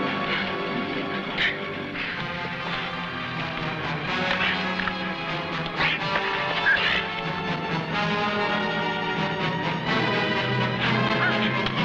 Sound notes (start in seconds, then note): 0.0 men grunting; 5.6 weapons whacking; 5.7 men grunting; 8.5 suspenseful music